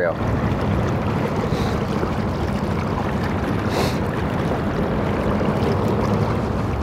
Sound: boat motor rumbling; water gurgling

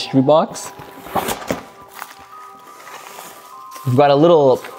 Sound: package rustles

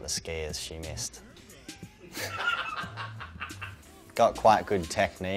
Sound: laughs

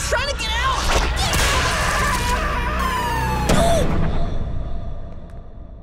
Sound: screaming

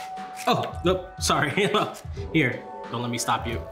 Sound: chuckles

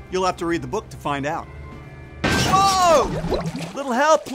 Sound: crash

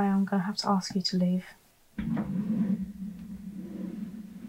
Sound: chair scraping away

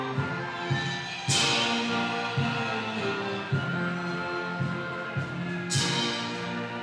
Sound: audience cheering continues

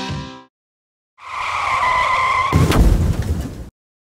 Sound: tires screeching; explosion booms

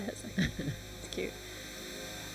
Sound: laughs

